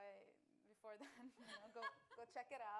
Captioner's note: laughs